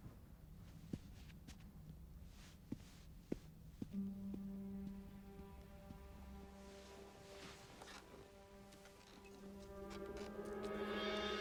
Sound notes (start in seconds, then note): 3.0 footsteps tapping; 3.9 foreboding music